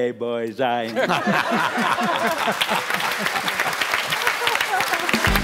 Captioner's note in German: Lachen